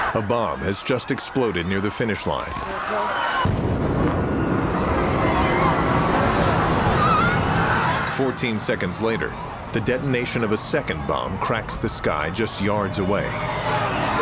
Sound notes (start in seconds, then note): 3.4 explosion; 5.2 people screaming